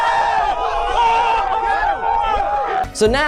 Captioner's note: crowd screams